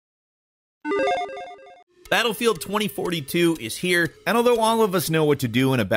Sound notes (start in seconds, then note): 0.9 video game beep